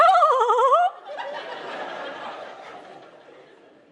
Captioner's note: laughter